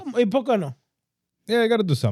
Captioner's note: speaking In Foreign Language